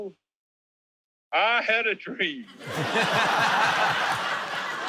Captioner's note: laughter